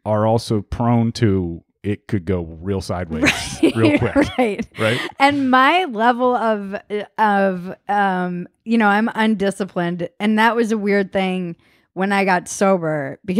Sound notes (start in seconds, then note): 3.1 laughing